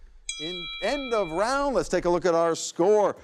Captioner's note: bell dings